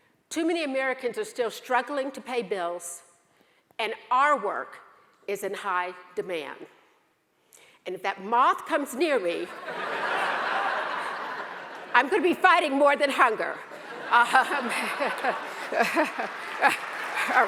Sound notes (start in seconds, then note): 9.5 audience laughs; 13.7 all laugh